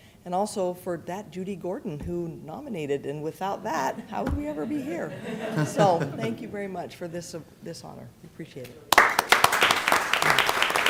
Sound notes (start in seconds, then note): 3.6 laughter; 8.9 applause